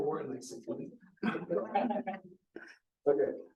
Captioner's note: audience chuckles